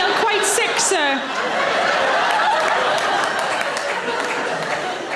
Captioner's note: audience laughing